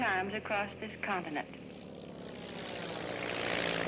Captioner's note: plane taking off